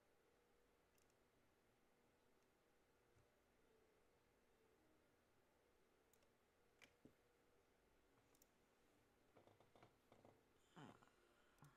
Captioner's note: mouse and keyboard clicking